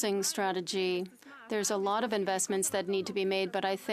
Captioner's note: speaking French